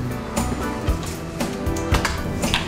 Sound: door shuts

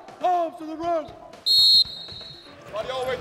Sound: whistle

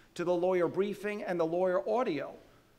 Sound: none

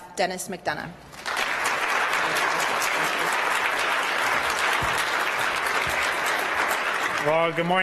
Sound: applause

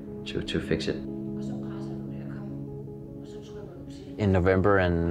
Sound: physical trainer speaking in foreign language

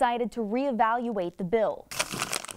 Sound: nat pop of grabbing products

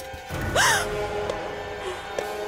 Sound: gasps

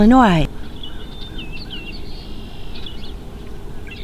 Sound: chirping birds

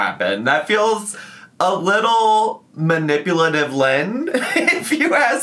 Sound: laughing

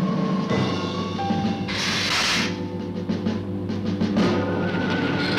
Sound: Gila monster hissing

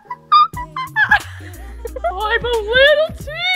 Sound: laughs

